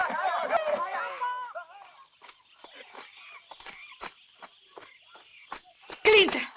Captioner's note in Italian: urlo